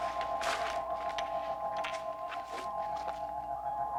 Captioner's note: crystal chiming